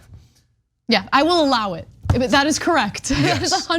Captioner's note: laugh